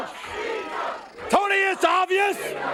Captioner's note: crowd cheering